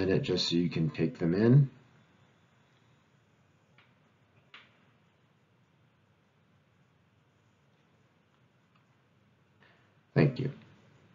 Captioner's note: 10 second pause